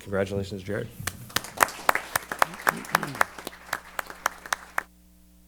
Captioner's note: applause